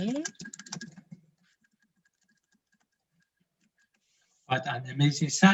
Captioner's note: typing